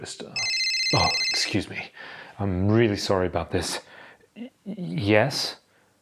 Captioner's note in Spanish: teléfono móvil sonando